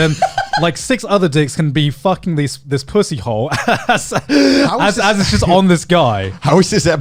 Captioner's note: laughs